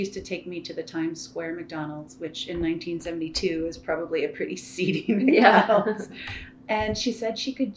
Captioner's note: laughter